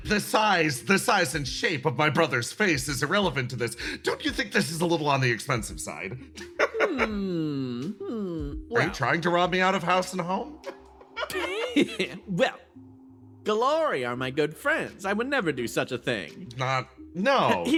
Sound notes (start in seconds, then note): 6.4 laugh